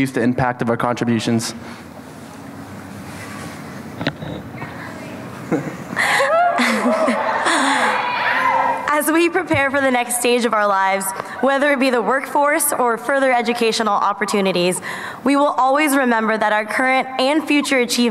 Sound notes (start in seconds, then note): 5.8 audience laughs and cheers